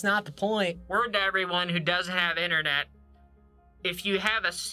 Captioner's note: talking through hand bullhorn